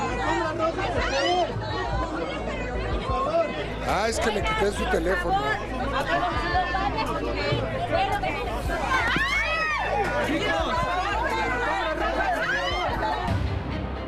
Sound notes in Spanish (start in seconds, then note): 4.8 gritos